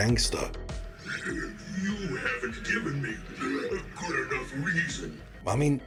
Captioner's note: wheeze